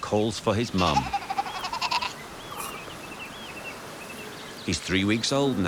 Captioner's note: sea lion pup chattering